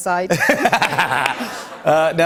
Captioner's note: laughter